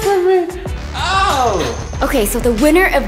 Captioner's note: screams